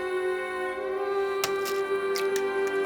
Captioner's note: egg crack